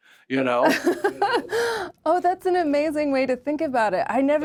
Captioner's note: laughs